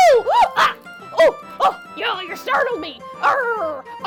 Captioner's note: gasps